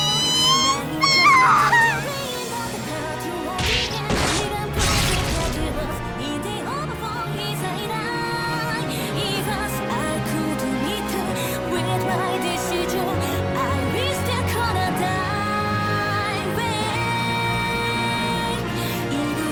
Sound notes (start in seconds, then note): 3.6 squish; 3.6 snap